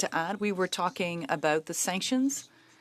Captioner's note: speaking French